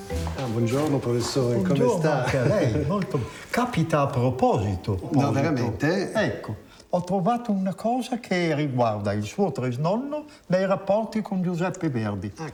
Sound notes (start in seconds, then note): 0.3 speaks in foreign language